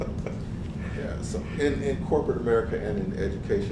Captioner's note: laugh